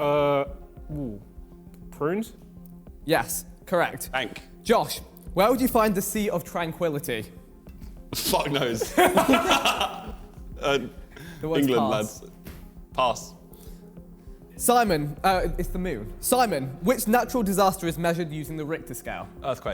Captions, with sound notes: - Ooh, prunes? - Yes, correct. - Bank. - Josh, where would you find the sea of tranquillity? - Fuck knows? (men laughing) - The word's pass. - England, lads. Pass. - Simon, oh it's the moon. Simon, which natural disaster is measured using the Richter scale?